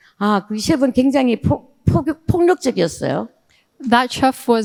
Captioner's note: speaking in foreign language